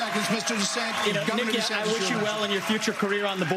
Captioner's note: cheers